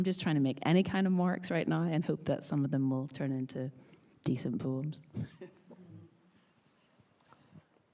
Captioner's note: laughs